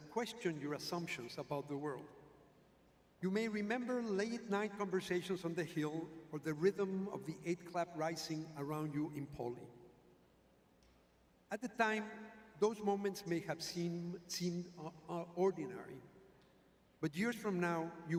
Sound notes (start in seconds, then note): none